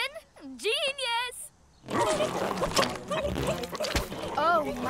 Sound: cries of distress

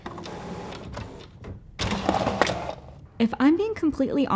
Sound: printer whirring

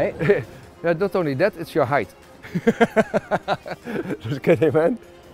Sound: laughs

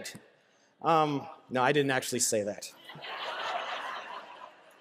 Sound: laughter

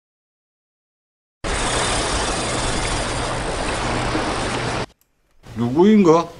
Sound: fishing reel drag sound

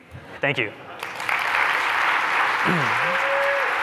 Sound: laughter; cheers, applause

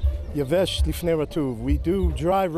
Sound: speaking in Hebrew

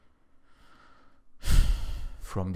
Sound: forceful exhale

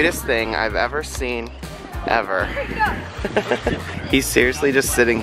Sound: laughs

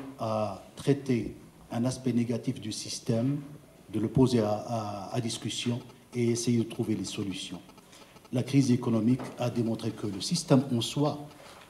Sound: speaking French

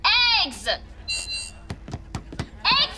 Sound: beeping

